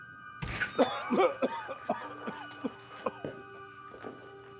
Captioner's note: Darlus coughing